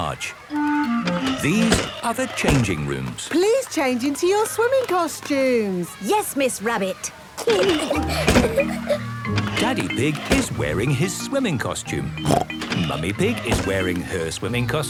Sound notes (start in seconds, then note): 7.4 giggling; 12.1 snorts